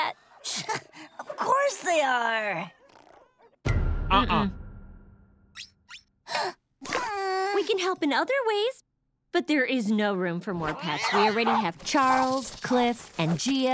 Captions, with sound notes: [scoffing] Of course they are. - Uh-uh. - Mm-mm. [gasping, whining] We can help in other ways. But there is no room for more pets. We already have Charles, Cliff, and Geo...